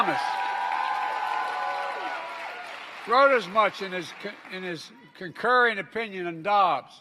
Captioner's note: applause